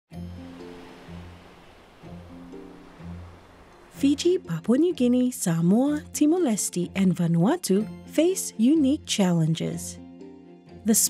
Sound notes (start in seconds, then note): 0.2 waves splashing